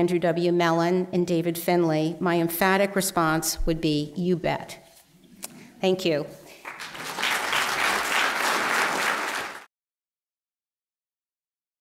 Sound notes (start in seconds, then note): 6.5 applause